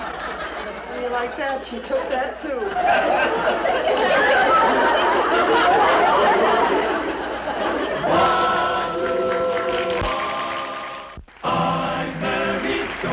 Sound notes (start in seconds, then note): 1.9 audience laughs; 7.9 audience claps